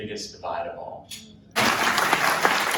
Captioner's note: applause